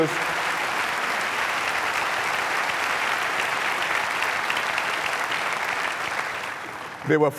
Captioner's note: applause